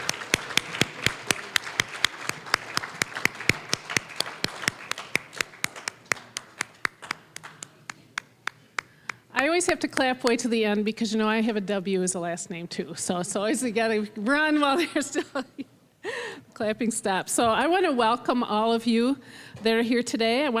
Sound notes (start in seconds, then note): 0.0 applause; 5.7 one person clapping; 15.4 laughing